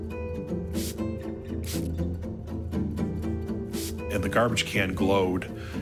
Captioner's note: dramatic music; luminol spritzing